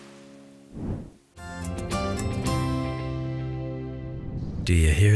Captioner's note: whoosh